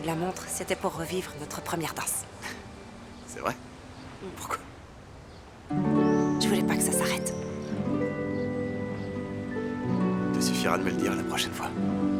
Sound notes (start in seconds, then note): 2.3 scoffs; 8.5 soft music